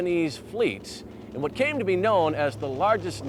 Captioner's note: plane engine revving